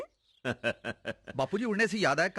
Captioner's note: laughing